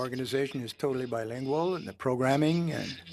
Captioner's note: speaking French